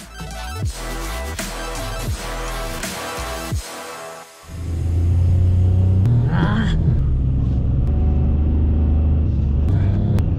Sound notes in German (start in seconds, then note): 4.4 Motorengeräusche